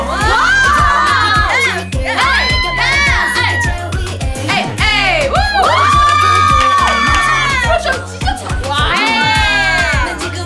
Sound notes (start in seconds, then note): 5.4 cheering